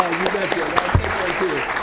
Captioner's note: applause; laughs